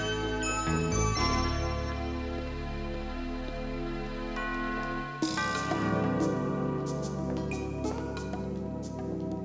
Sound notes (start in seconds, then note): 4.6 doorbell ringing; 6.6 sultry music